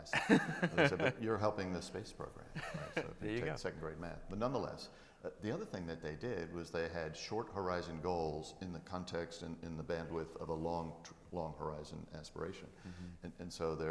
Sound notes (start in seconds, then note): 0.1 audience laughing; 2.5 laughs